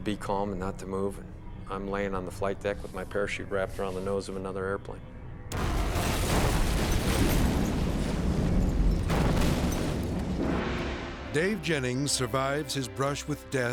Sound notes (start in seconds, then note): 5.5 metal crashes; 5.5 explosions popping; 8.9 explosion pounds